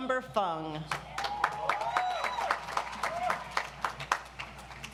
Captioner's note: audience applauds